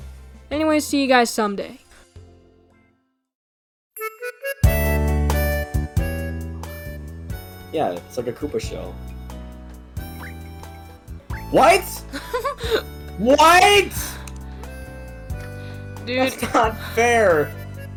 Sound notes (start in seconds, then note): 11.6 laughs